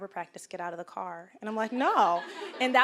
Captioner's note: audience laughing